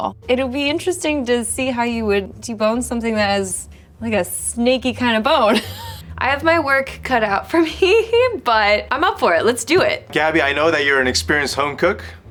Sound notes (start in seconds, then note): 5.4 chuckles